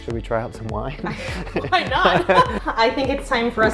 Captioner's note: chuckles; laughs